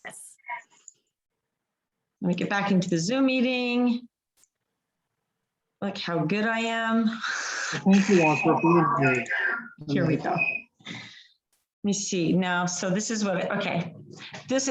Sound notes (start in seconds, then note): 7.7 microphone distortion